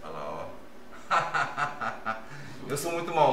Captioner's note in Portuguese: risos